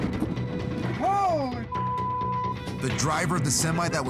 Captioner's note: beep